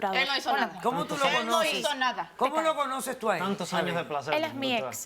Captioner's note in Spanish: Hablan al unísono